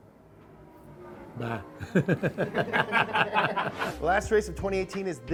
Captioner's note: everyone laughs